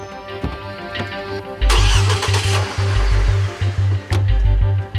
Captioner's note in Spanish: Sonido al arrancar el motor